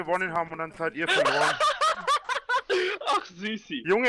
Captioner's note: laughing